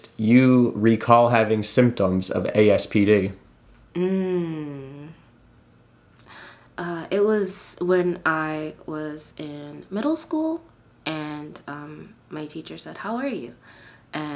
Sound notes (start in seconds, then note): 3.9 interviewee hums